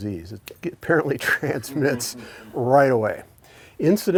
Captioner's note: chuckles